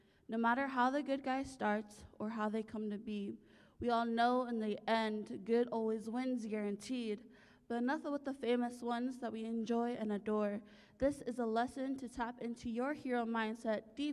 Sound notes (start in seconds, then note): none